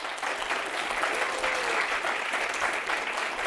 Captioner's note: crowd applauds